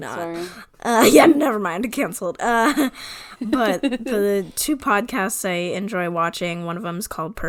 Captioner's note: laughs